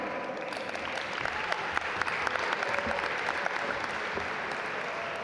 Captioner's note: audience applaud